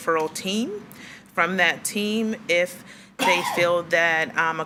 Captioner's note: attendee coughing